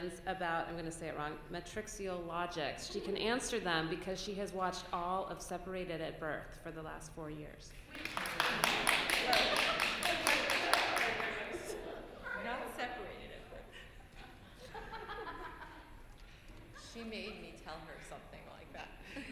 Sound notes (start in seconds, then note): 7.9 applause; 13.6 laughter